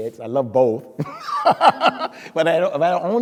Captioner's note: speaker laughing